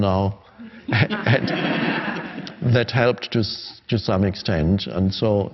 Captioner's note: crowd laughing